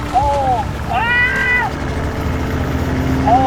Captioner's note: screaming